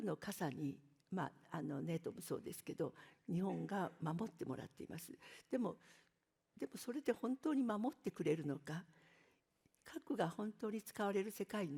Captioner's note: speaking in Japanese